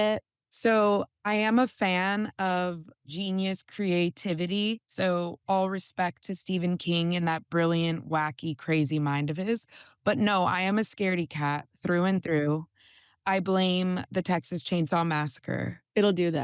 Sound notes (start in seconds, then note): none